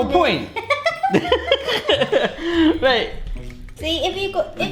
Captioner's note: both laughing